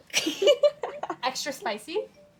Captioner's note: girls laugh